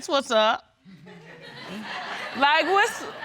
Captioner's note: all laughing